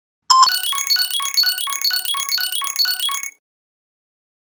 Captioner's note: ringtone playing loudly